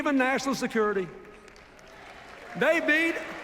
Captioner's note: applause